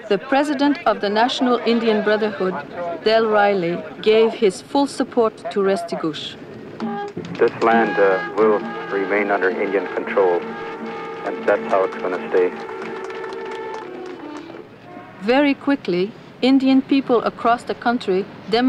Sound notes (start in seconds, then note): 12.9 car horns honking; 12.9 people clapping